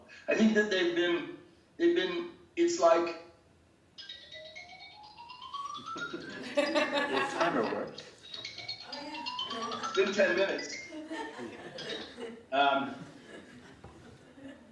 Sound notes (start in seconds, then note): 4.0 phone ringing; 4.2 laughing; 8.8 phone ringing; 11.3 laughing